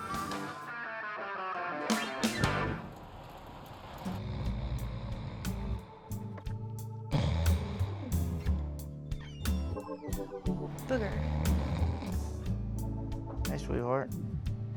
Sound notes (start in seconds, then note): 3.8 snoring; 9.0 door creaks open